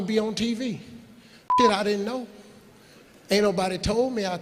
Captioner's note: beeping